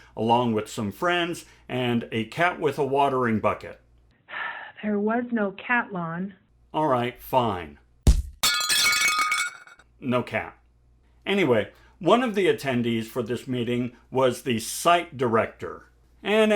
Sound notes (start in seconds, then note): 8.4 glass shattering